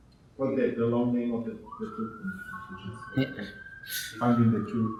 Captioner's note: siren whirling drowns out speaking